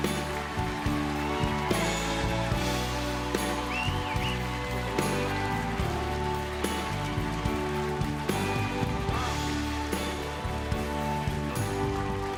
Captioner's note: applause